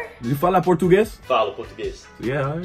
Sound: speaks Portuguese

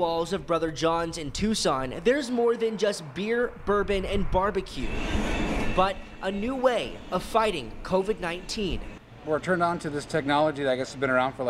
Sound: nats: cars drive by restaurant

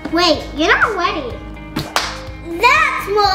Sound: claps

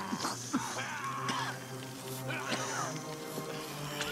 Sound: coughing

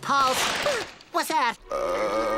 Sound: gasps; groaning

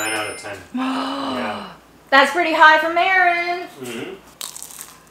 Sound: gasps

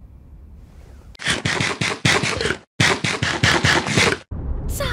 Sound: minecraft eating sounds

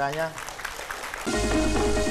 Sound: applause

